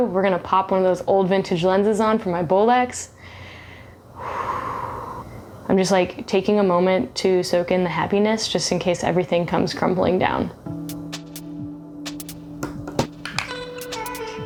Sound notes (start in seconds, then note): 4.0 sighs; 10.6 gentle electronic music